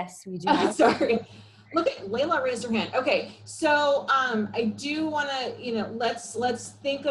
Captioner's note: laughs